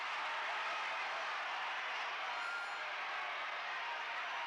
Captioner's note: crowd cheers